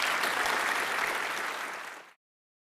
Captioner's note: applause